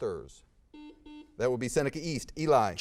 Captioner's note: buzzer beeps